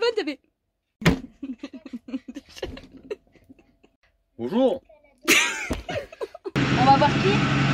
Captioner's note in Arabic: يضحك